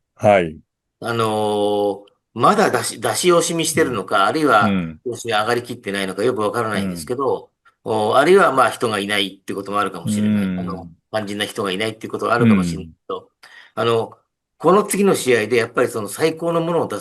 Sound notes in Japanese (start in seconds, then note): 7.3 咳払い